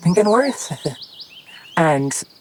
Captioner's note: laughs